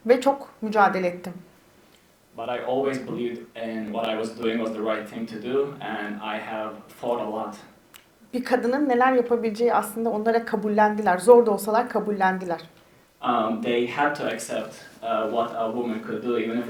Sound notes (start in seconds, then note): 8.5 speaks in Turkish